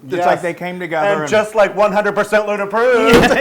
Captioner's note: laugh